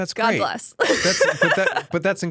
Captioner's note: laughs